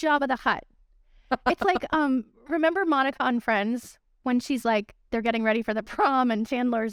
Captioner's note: laughter